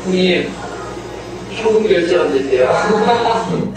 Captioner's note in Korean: 웃음